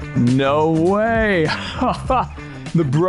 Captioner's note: laughs